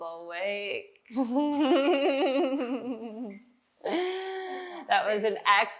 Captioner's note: laughter